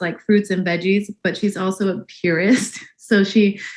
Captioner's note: laughs